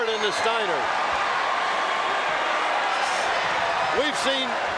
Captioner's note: audience cheering